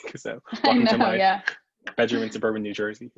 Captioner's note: laughs